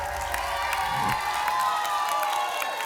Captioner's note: applause and cheering; whoosh; applause and cheering